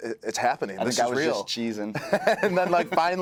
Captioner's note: laugh